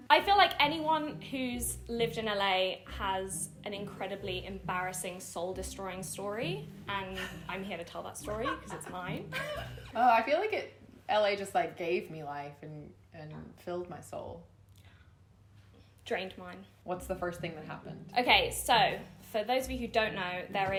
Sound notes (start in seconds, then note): 8.3 both chuckling